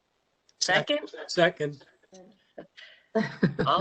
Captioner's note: laughter